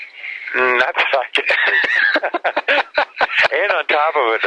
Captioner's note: both laugh